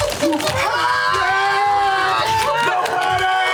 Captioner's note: yelling